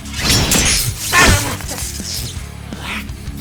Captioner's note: scream